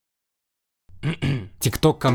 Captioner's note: khm-khm